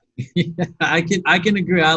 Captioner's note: laughs